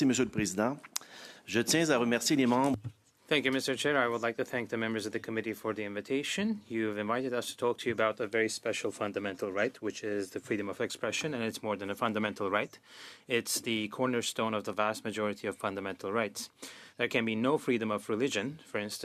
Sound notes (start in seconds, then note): 3.2 speaking French